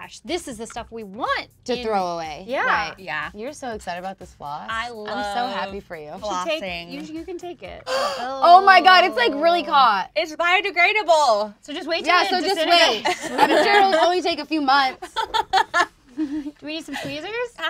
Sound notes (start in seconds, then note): 7.8 gasps; 15.0 laughs